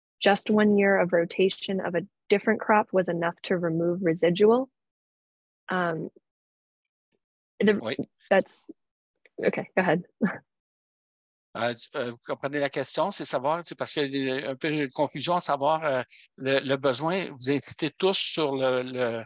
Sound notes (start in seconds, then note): 11.6 speaking foreign language